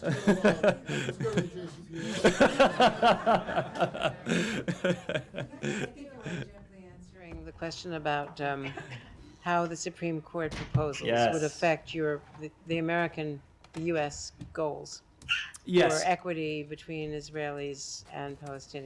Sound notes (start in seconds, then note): 0.0 laughter